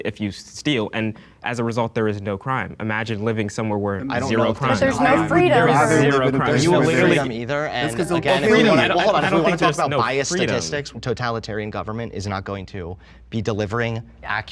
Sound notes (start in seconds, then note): 6.3 group buzzing